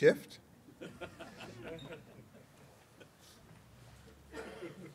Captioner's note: laughter